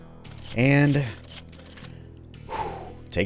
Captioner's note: deep exhale